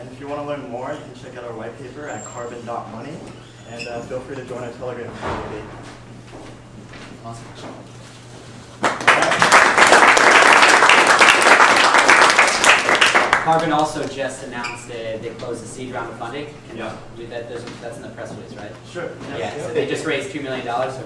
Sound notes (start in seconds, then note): 8.8 applauding